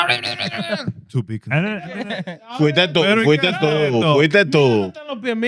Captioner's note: speaking In Foreign Language